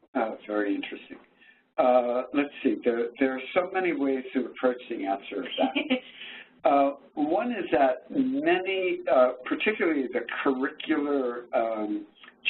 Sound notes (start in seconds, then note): 5.4 chuckles